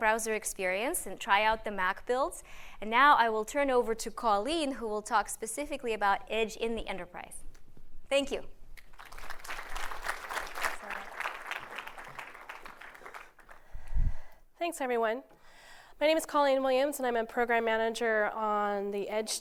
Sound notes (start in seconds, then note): 11.8 applause